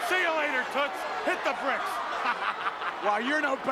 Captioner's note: laugh